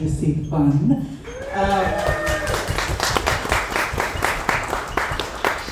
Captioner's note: audience applauds